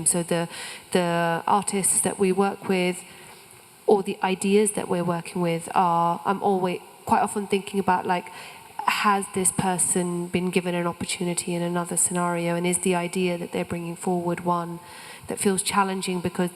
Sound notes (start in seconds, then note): none